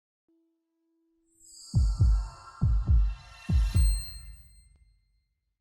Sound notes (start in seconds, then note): 1.8 heart thumps; 3.6 logo chiming